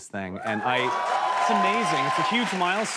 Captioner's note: cheers and applause